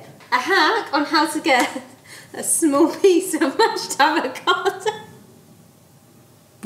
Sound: laughs

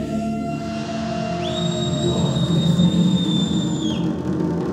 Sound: whistle blows

